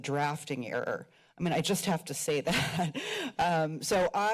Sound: chuckles

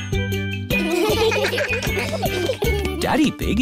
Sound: steel band; laughter

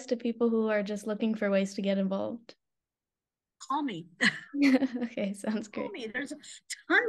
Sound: laughter

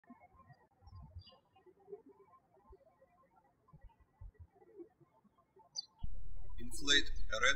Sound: birds chirping

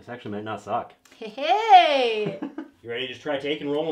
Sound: laughing

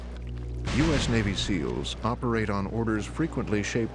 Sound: voiceover

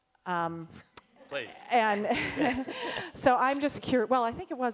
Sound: chuckling

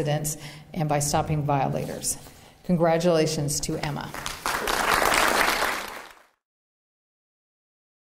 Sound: applause

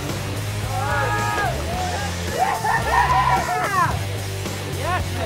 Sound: shouting

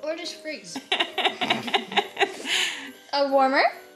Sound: laughing

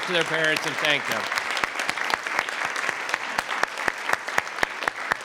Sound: audience clapping

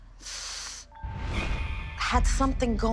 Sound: inhales sharply

